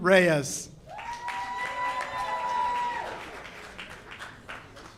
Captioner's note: audience cheers